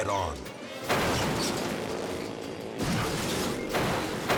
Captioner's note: motorcycles clash